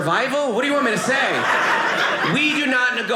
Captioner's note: audience laughing